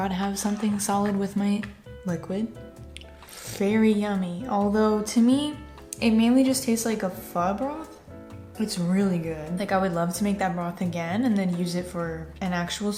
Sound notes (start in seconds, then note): none